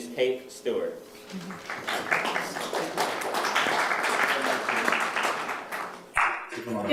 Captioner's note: applause